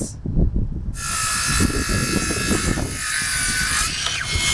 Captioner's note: saw cutting plank